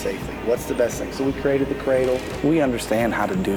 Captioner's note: drill cracks